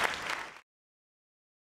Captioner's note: applause